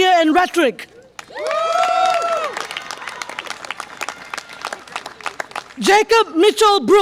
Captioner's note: audience applause and cheer